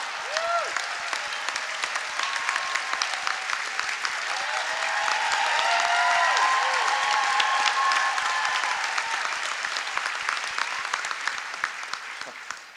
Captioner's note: laughter, applause